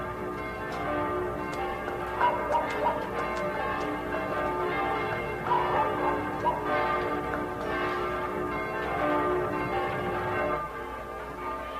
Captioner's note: tower bells ringing